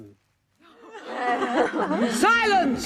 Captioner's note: crowd chatting, laughing